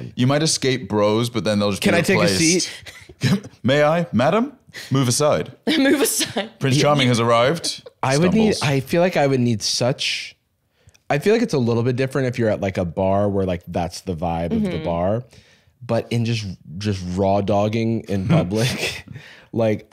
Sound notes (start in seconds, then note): 6.8 laughs